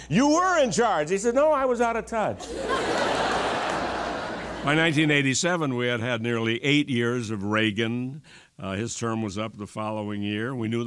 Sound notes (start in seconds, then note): 5.1 laughter